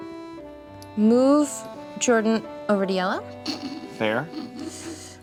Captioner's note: snickers